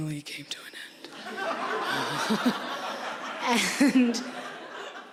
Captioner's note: audience laughing